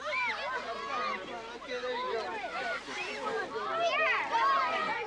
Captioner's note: crowd chattering